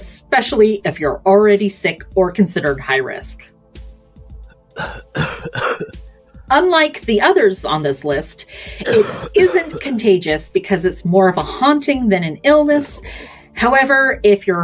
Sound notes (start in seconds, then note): 4.7 coughs